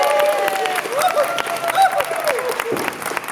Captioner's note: applause